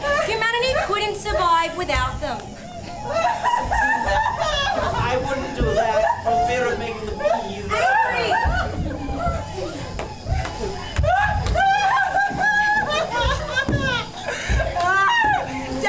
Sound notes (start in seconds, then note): 2.6 Jane’s sobs; 3.0 “bees” & “bats” SFX; 5.5 Jane’s sobs